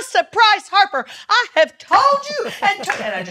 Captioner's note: laughs